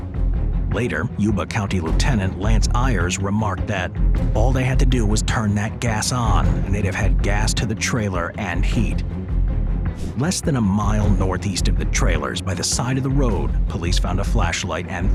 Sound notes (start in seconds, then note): 0.2 tense suspenseful music continues; 9.9 transition whooshes